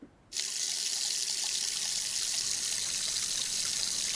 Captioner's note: water runs